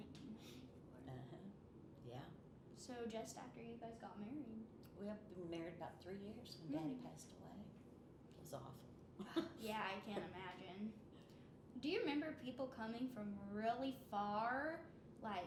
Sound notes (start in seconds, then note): 9.2 chuckles